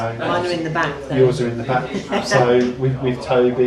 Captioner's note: laughing